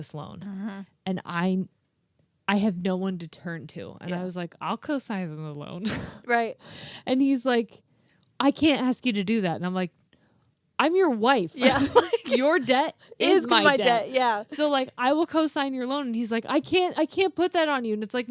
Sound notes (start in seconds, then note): 11.6 both laughing